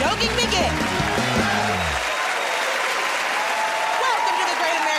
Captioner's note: cheers and applause